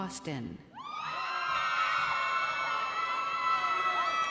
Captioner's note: crowd cheering